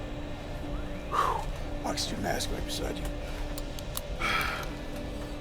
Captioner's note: expels Breath; takes Deep Breath